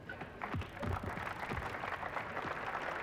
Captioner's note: applause